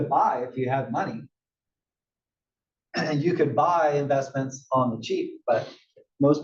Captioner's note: cough